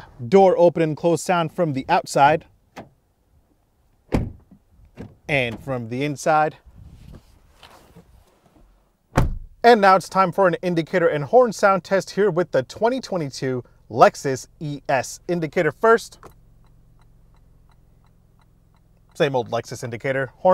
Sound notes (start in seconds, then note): 4.1 door clanging; 9.1 door clanging; 16.3 indicators clicking